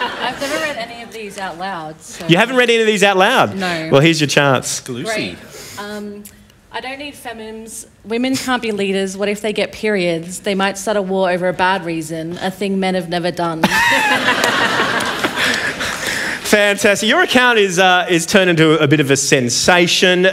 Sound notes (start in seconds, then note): 13.6 laughter